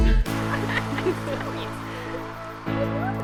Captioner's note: laughter